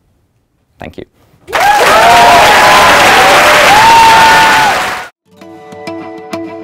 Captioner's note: applause